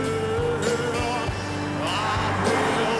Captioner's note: car whooshes